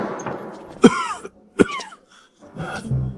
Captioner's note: cough, cough